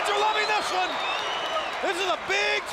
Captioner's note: crowd cheering